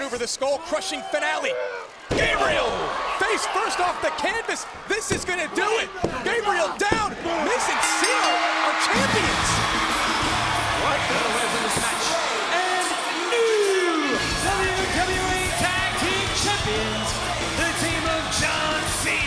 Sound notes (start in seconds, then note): 2.1 body thudding; 4.1 hands thudding; 7.7 bell ringing; 7.7 upbeat music